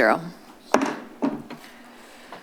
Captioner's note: bangs